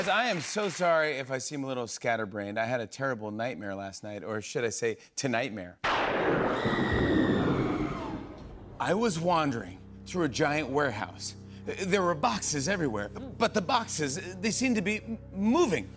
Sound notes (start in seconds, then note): 6.0 thunder crashes, woman screams